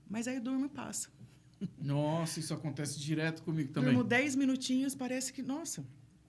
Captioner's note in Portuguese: limpando a garganta